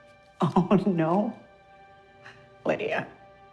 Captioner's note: scoffing